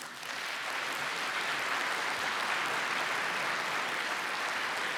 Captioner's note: applause